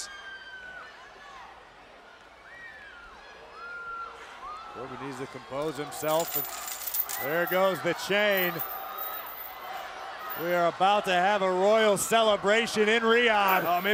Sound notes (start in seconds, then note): 0.0 crowd shouting and screaming; 6.0 chain rattling